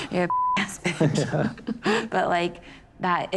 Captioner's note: laughs